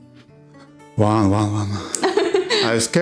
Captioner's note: laugh